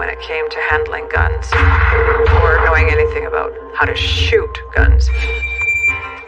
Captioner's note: gun fires